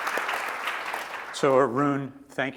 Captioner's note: applause